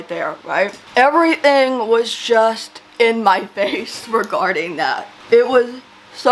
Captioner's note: laughs